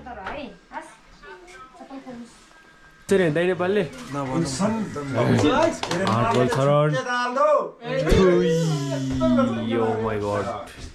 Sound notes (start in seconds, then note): 3.1 lively chatter